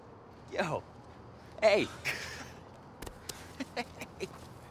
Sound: laughs

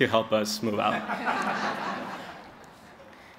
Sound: laughter

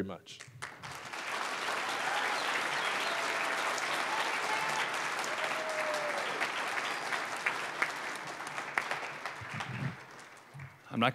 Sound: applause

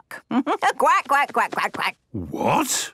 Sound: quacks

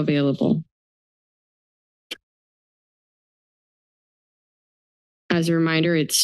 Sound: silence

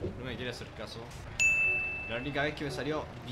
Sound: ding

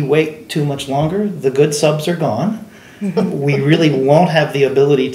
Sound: laughing

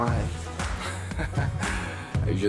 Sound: chuckling

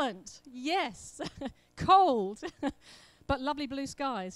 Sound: laughs

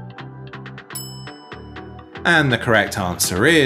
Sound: bell clinking

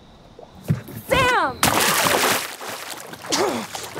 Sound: water splashing

